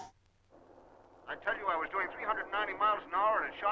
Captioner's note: radio